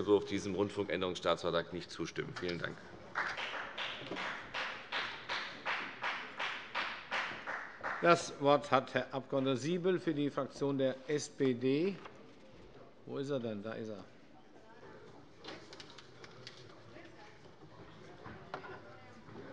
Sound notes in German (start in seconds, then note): 3.1 Beifall bei der FDP